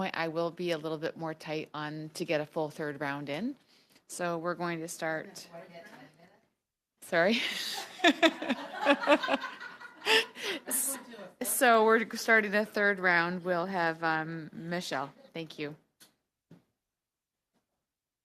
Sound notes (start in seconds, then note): 13.8 laughter